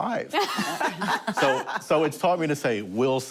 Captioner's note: laughter